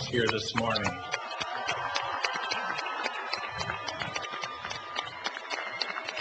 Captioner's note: cheering and applause